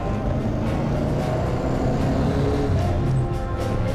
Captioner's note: engine revs